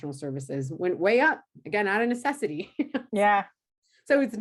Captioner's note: laughs